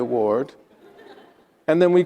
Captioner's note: attendees laughing